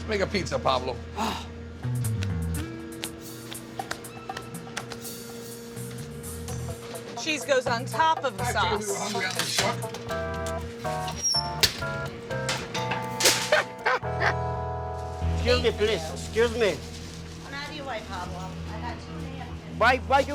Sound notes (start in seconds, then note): 9.3 playful music; 13.5 laughing